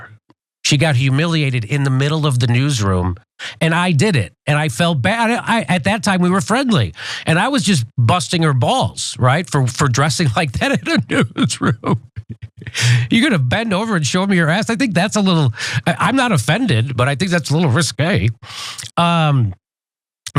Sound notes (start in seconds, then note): 10.7 laugh